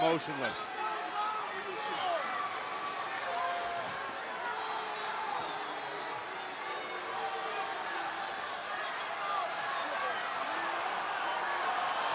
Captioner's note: applause